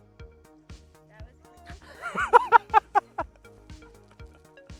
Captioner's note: laughing